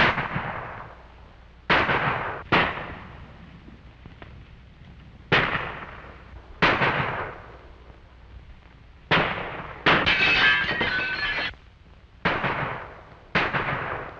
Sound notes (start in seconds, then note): 9.9 glass breaking